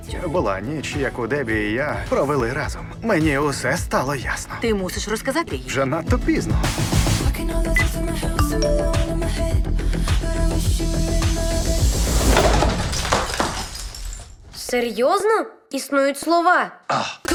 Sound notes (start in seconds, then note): 11.9 object shattering